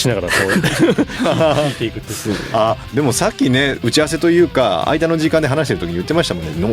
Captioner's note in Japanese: 笑い